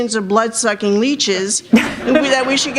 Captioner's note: laughter